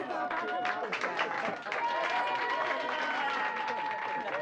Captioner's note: cheering